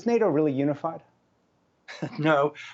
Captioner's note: laughter